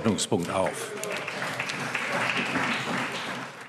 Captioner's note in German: Beifall CDU, BÜNDNIS 90/DIE GRÜNEN und SPD